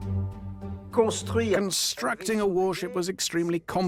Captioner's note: voiceover